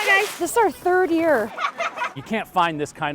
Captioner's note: laughing